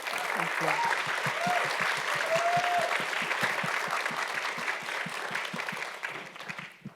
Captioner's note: audience cheering and clapping